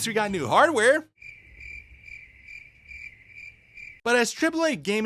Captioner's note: crickets